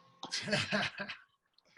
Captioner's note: laugh